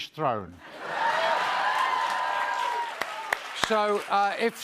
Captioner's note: cheers and applause